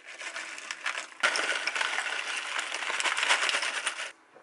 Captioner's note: sound of pouring